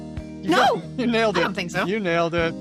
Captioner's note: gasps